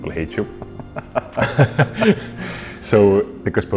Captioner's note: chuckles